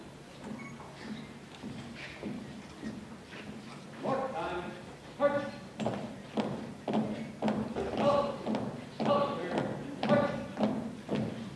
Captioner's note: marching